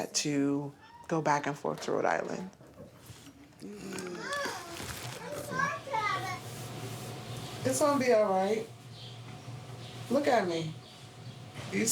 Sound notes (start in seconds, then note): 3.6 grumbling